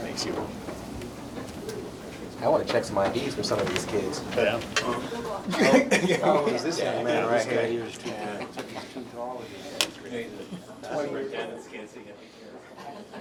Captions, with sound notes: - I want to check some of these IDs for these kids. (laughter) (chatter)